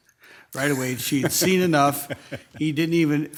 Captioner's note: laughing